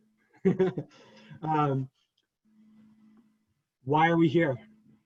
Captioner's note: laughs